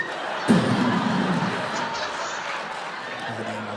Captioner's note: exploding